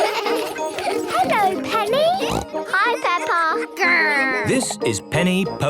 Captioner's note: laughter; snorting